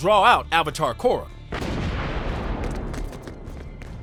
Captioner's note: booming